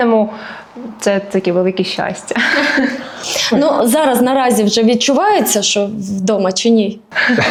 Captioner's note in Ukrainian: сміх; сміх